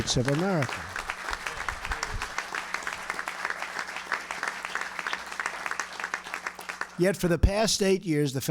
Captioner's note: applause